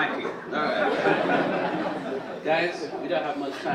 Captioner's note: audience chuckle